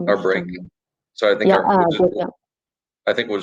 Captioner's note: chatter